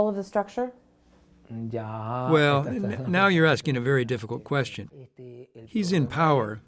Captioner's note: through translator